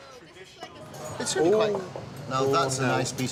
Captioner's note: indistinct chattering